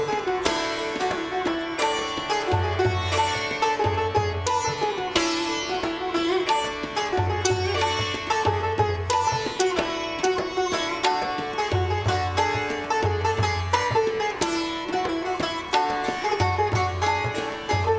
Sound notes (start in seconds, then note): none